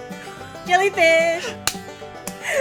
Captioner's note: hand slapping